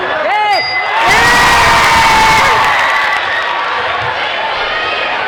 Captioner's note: dinging; crowd cheering